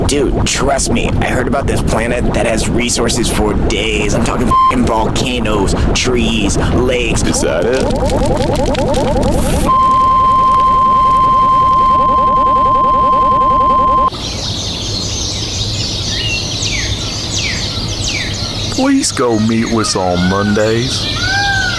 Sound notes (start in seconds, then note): 8.3 fire crackles; 9.6 beep; 14.0 birds chirp